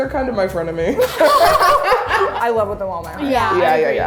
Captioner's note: laughing